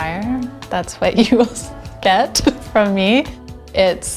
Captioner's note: chuckles